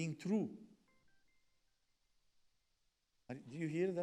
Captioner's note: phone beeps